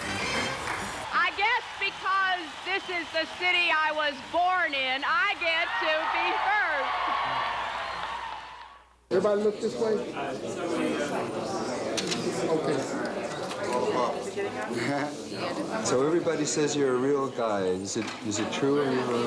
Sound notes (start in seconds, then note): 7.1 crowd cheers; 12.0 camera clicks